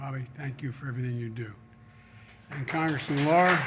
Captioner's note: applause